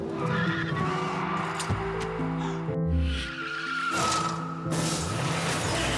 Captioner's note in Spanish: Frenazo; Chirrido de neumáticos; Estruendo al chocar y rodar